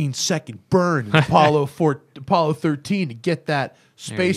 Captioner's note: laughter